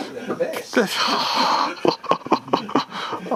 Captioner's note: laughter